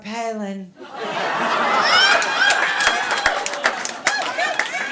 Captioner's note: laughter